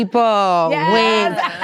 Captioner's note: laughter